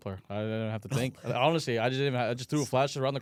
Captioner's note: laughs